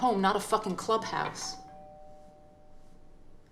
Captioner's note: doorbell rings